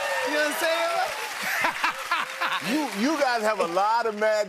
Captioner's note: laughs